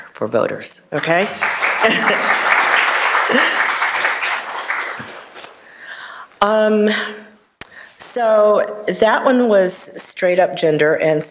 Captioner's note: applause